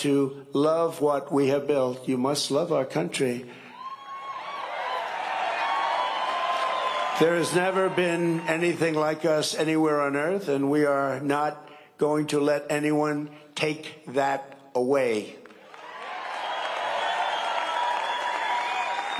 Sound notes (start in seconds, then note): 8.0 cheering and applause